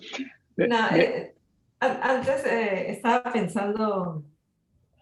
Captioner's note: speaking Spanish